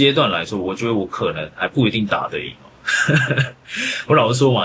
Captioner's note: laughs